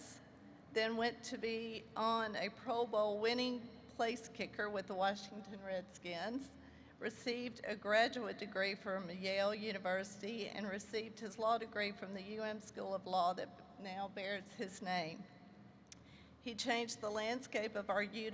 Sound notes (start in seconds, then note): none